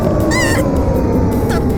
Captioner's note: panicked cry